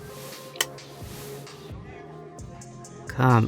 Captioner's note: quick half hearted kiss